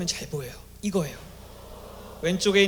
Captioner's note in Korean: 환호